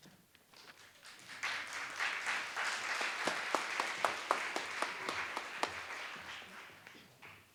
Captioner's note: applause